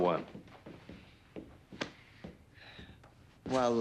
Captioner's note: footstep